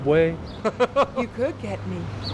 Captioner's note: laughing